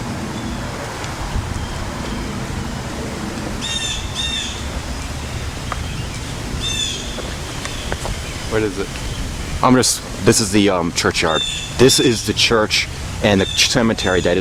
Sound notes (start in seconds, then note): 3.4 bird Singing